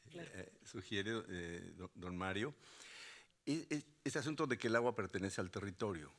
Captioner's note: speaking Spanish; speaking Spanish continues